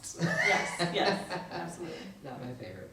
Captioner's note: laughs